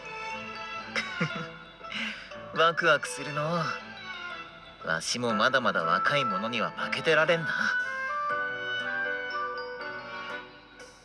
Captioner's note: laugh